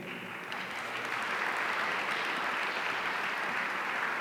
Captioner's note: audience applauding